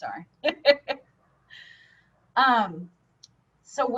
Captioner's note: laughing